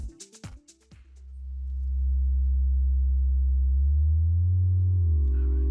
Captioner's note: speaker vibrating